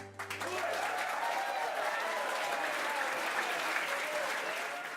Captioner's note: crowd cheering